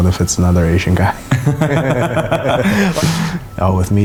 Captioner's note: both laugh